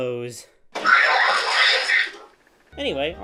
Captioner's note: FNAF 2 Scream